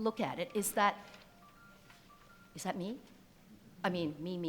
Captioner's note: ringing